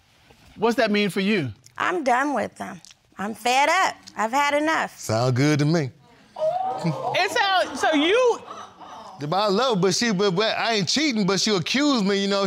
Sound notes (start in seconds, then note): 6.2 audience gasps; 10.1 stutters